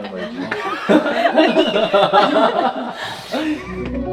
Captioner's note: bursts into laughter right from the start